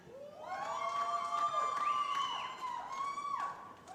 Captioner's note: cheering